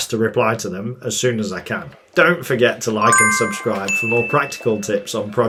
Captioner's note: bell dinging